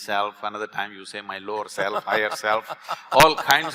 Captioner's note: Karan Johar laughs